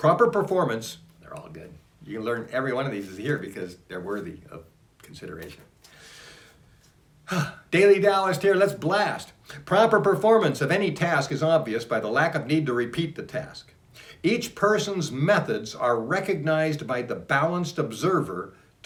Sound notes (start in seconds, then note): 7.2 sigh